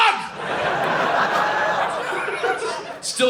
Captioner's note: audience laughing